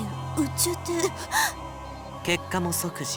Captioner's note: gasp